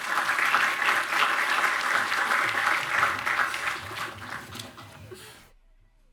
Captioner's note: applause